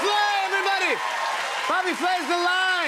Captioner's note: cheers and applause